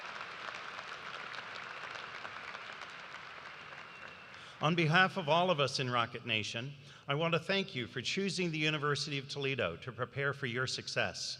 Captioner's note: cheers and applause